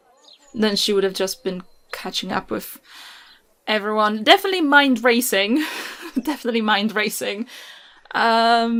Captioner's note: laughs